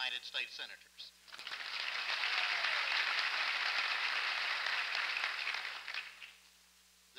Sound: applause

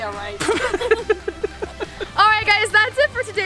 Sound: laughing

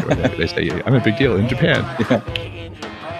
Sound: laughs

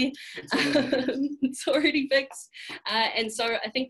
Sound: laughs

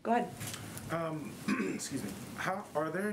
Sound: clears throat

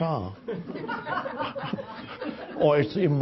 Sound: audience laughs

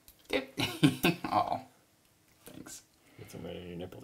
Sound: giggling

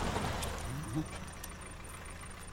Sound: car stops

